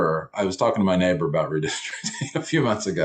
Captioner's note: chuckles